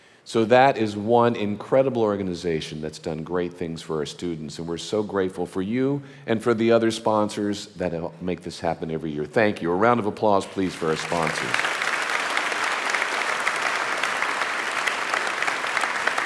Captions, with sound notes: So that is one incredible organization that's done great things for our students. And we're so grateful for you and for the other sponsors that make this happen every year. Thank you, a round of applause, please, for our sponsors. (audience applauding)